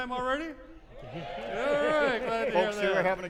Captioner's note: audiences saying "yeah"